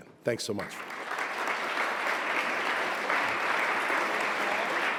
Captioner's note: crowd applauding